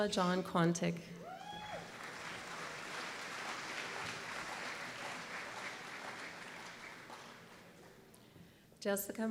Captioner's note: applause